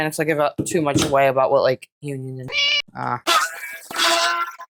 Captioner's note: meow